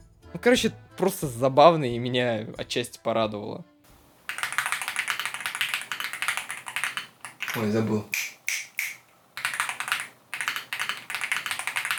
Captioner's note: typing